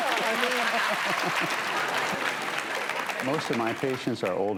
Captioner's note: audience applauding